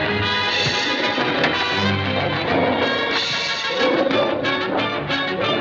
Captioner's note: ape Growling